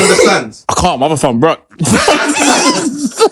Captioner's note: laughter